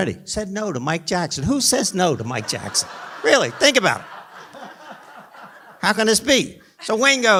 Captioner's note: laughter